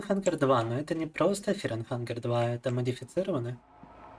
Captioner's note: speaking in Russian